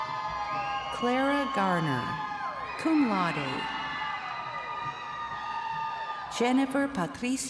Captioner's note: crowd cheering